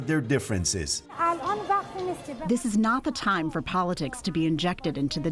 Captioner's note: through translator